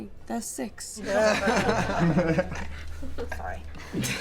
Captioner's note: laughter